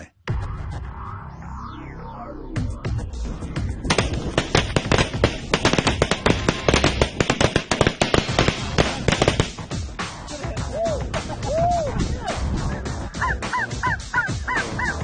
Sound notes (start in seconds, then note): 7.5 shotguns blast; 12.2 men laugh and cheer